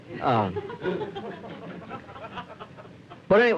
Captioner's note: laughter